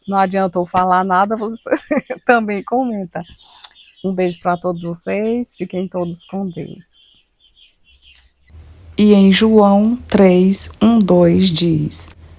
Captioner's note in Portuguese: risadas